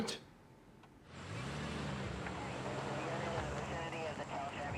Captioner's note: police radio chatter